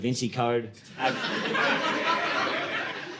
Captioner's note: audience laughing